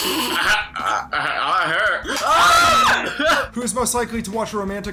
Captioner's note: snickers; both scream